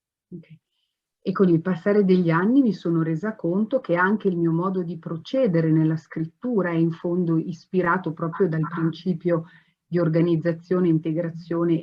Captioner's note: speaking Italian